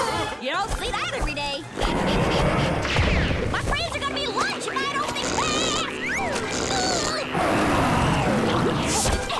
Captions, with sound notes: You don't see that every day. My friends are going to be lunch if I don't think fast! [grunting]